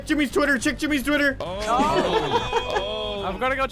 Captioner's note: laughs